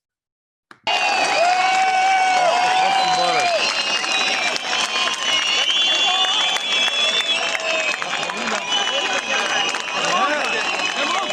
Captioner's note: clapping and chanting